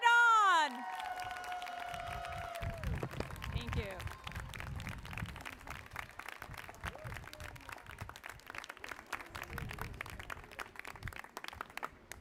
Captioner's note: applause